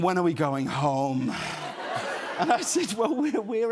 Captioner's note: laughter